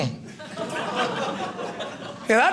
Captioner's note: audience laughing